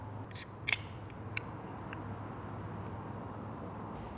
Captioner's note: can tab cracks